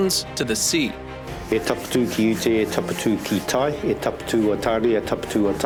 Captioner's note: speaking in Maori